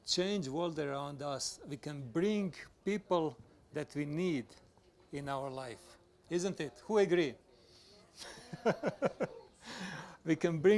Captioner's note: laughs